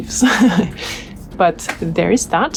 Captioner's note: laughs